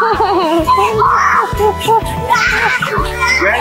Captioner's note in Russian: смех